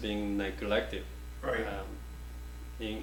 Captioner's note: offscreen Voice